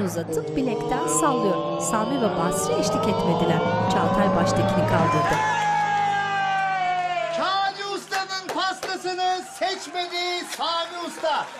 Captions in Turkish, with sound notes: Ooo! (Sevinç çığlıkları) Kani Usta’nın pastasını seçmedi Sami Usta.